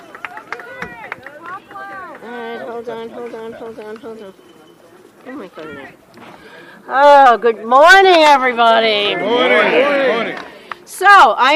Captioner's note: cheering